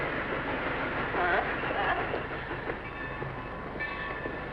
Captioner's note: train chugging